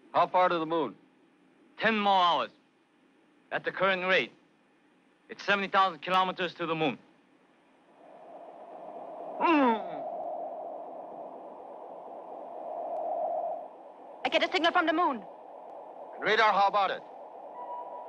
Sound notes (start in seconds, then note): 8.2 magnetic humming; 9.4 man groans